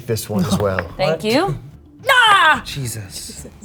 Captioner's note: yelling